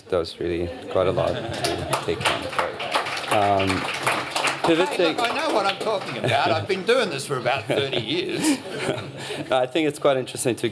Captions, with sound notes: That was really got a lot. [LAUGHTER] [APPLAUSE] Hey, look, I know what I'm talking about. I've been doing this for about 30 years. [LAUGHTER] And I think it's quite interesting